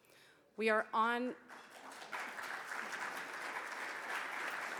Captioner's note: audience clapping